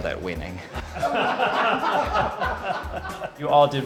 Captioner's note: everyone laughing